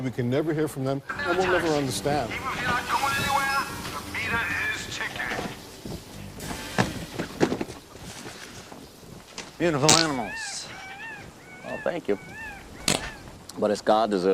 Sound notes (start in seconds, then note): 11.3 fart; 12.8 fart